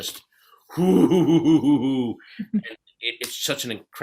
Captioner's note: laughs